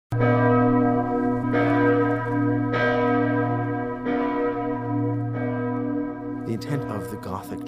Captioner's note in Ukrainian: б'ють дзвони